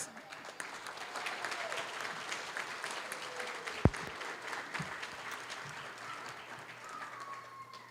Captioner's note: applause